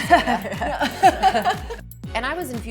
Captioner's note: laughter